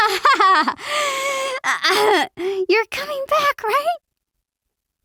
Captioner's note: gasps nervously